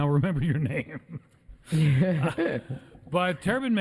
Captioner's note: laughter